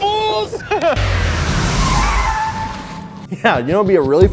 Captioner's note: car tires screech